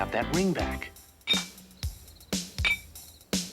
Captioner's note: clanging